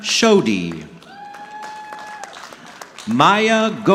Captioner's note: audience clapping